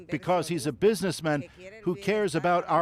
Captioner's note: speaking alternate language